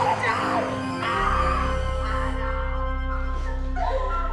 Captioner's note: all crying; dramatic music